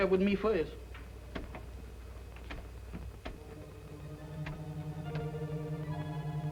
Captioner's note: doorknob rattling